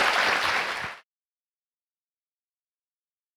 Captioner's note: applause